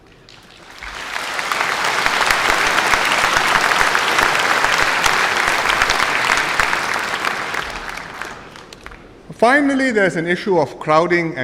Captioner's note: applause